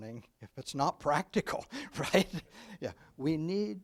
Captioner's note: laughs